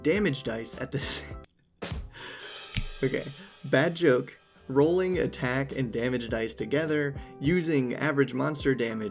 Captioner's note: laughs